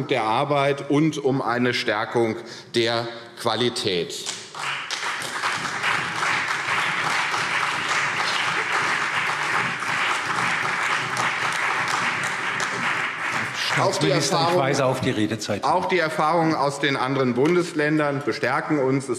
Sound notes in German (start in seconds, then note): 4.3 Beifall CDU und BÜNDNIS 90/DIE GRÜNEN